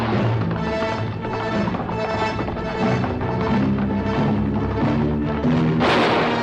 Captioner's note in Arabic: صوت حوافر; موسيقى درامية; صوت إطلاق النار